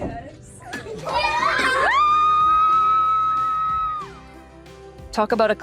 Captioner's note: cheers